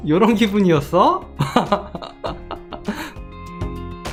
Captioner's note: laughing